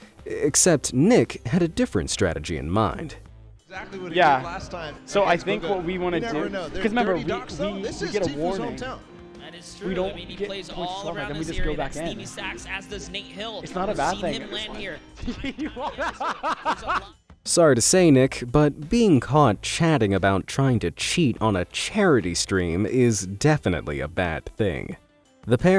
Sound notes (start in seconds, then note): 15.2 laughs